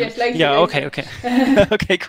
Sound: laughing

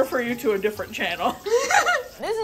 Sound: laughs

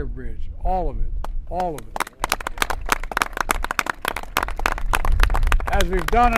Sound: applause

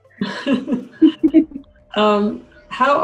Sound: laughs

